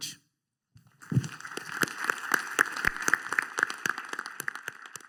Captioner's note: applause